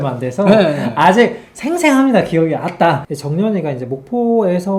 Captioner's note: dialect